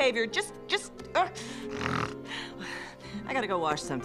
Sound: grunts, snorts, exhales

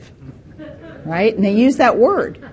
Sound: participant laughing

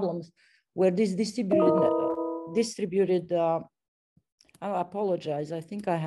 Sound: computer alert

